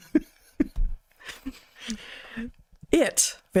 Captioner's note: laughing